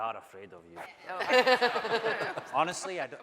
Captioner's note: laughing